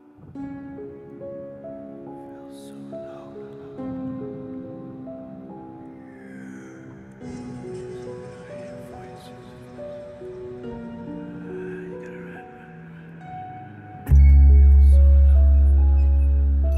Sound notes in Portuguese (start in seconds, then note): 2.3 sussurros; 14.1 música misteriosa